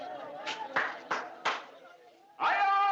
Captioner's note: claps Hands